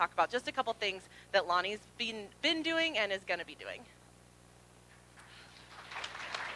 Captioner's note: applause